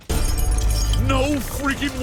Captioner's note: glass tinkles